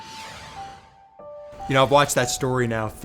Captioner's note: logo whooshing